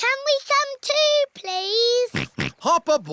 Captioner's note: snorts